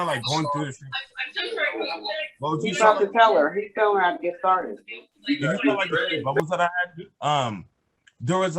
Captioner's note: loud feedback